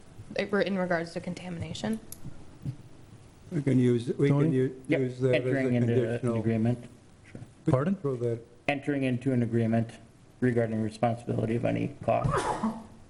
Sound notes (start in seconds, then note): 5.2 murmurs; 12.3 murmurs